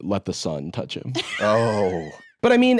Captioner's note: laughs